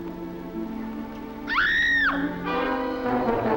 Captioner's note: scream